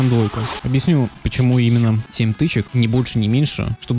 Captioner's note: strikes